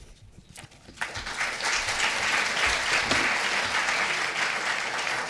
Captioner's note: audience applauding